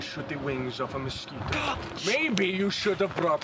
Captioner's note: scoffs